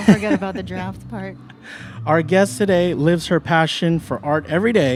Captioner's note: laughs